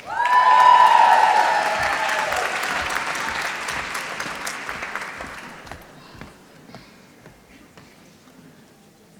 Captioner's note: applause